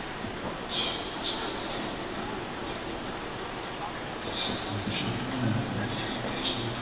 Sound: whispering

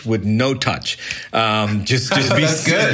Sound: laughs

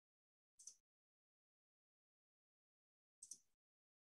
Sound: mouse clicking

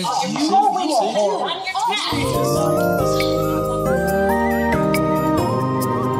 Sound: indistinct chatter

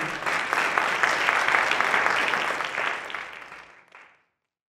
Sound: audience clapping

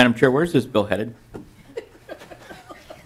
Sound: laughter

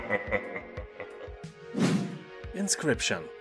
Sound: laughs in demon

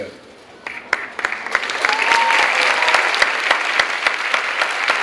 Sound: clapping

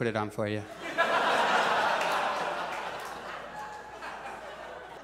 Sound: audience laughs

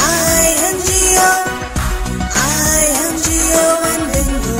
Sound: clap; clap

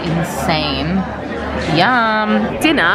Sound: people chattering

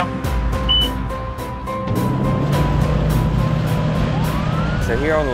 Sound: engines starting and siren

